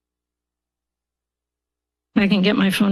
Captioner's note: pause